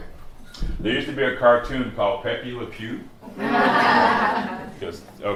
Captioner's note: laughter